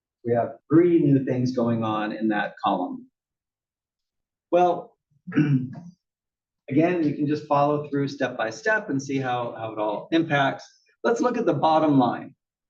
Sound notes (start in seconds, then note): 5.3 cough